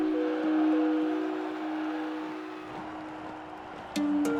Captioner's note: audience cheers